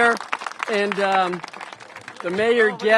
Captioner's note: applause